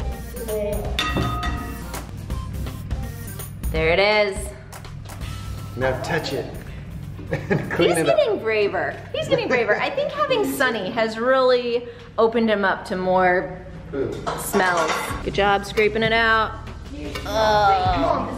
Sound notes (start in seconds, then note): 7.2 chuckles